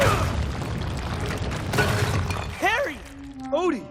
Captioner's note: rumbling